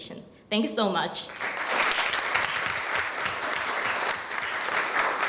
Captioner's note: applause